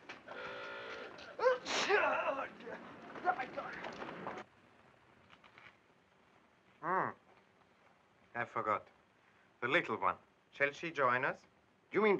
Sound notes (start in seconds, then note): 0.0 city street sounds; 0.3 car honks; 1.4 Clive sneezing